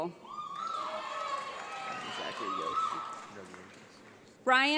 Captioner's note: audience applauds